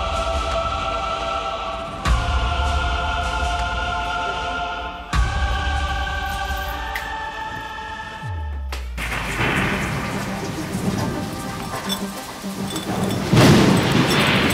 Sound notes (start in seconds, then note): 3.8 chorus as music fades out; 8.9 thunder; 11.4 dreamy electronic music